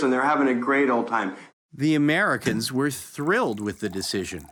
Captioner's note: none